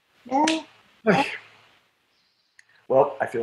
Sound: sighs

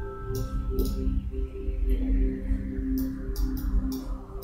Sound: mouse clicking

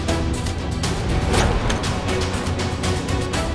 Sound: door opens

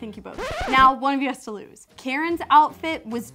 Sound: record scratch

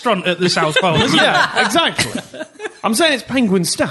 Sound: laughter

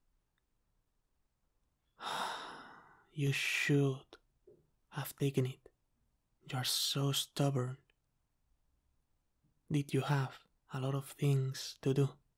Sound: sigh

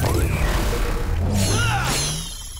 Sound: grunting

